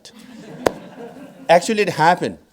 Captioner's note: audience laughing